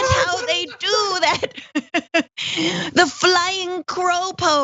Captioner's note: laugh